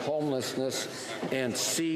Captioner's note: none